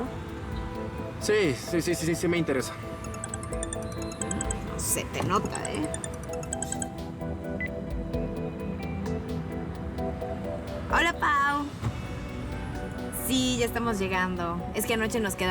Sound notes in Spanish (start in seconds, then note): 4.7 Suena el celular